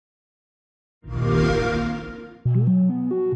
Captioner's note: xbox sound